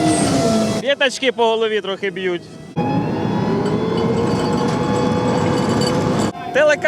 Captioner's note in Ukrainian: звук мотора